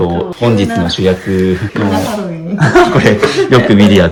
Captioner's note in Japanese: 笑い